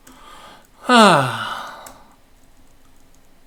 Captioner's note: sighs